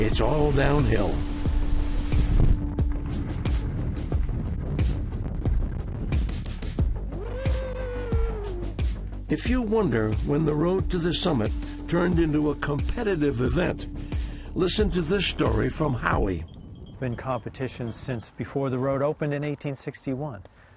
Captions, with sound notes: it's all downhill. (upbeat music) (competitor cheering) If you wonder when the road to this summit turned into a competitive event, listen to this story from Howie. - Been competition since before the road opened in 1861.